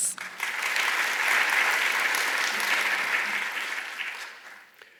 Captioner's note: clapping sound